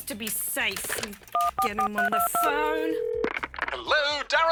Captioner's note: line rings